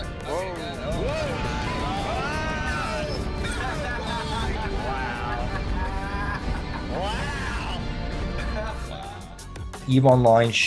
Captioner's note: multiple players laughing and cheering